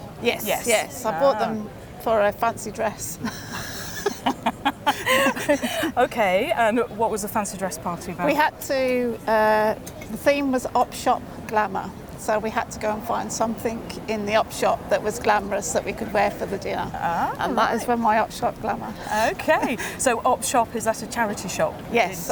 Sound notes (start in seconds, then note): 3.2 both laugh